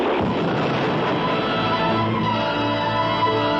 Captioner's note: gunshots